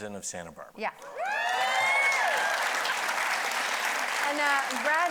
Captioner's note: audience cheering